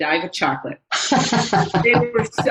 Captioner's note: laughs